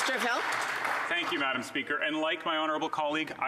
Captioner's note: some Applause